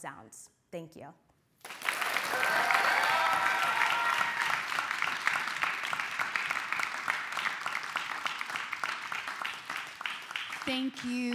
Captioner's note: clapping